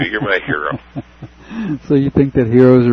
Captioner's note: laughter